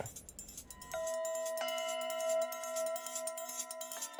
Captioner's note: bells ringing